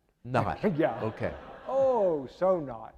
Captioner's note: audience laughing